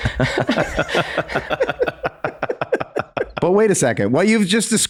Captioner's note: all laugh